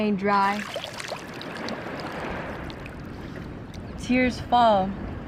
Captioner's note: hands running through water, water dripping into ocean